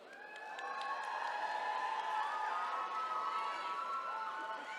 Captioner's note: attendees cheering